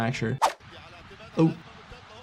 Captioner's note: commentator speaking in foreign language